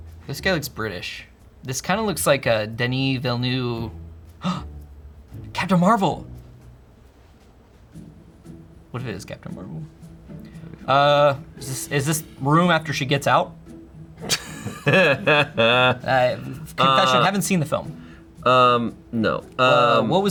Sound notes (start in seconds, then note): 4.3 gasps; 14.2 laughs